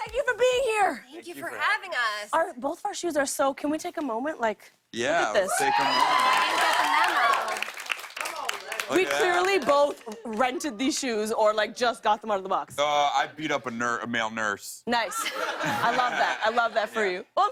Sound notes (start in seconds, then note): 5.4 cheers and applause; 15.0 laughter